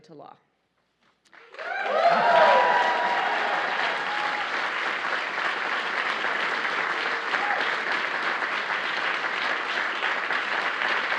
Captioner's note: applause